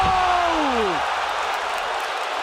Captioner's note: crowd cheering